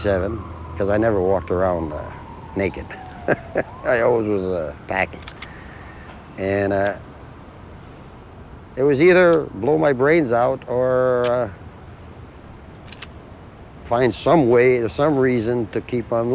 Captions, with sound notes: 'cause I never walked around naked. (laughing) I always was packing. And it was either blow my brains out or... ... find some way, some reason, to keep on living.